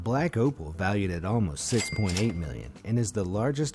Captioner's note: cash register ringing